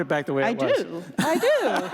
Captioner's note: applause